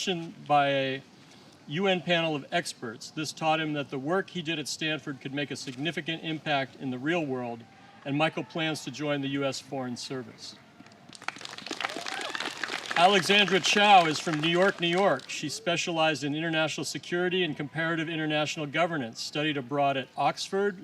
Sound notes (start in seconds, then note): 11.0 applause